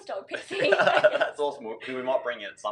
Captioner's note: laughs